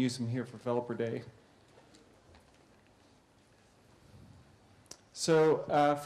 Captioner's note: pause